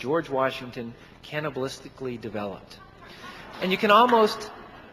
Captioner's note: audience laughing